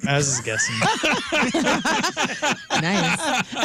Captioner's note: laughing